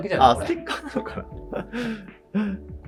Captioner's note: laughing